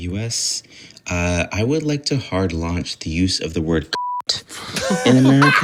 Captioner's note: beep